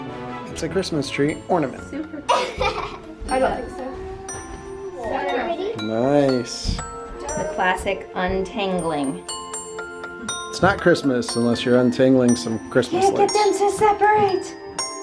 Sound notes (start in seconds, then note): 2.2 laughs; 3.3 bright tinkly music